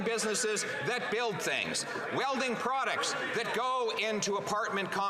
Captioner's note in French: voix de l'interprète